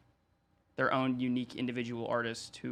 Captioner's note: none